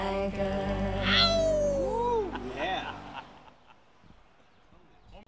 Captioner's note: laughing